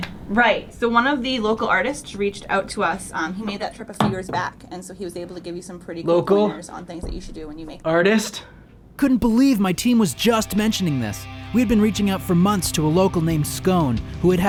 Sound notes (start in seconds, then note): 9.4 voiceover